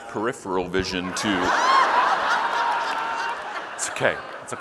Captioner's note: audience laughing